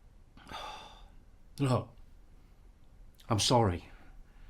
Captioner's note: sighs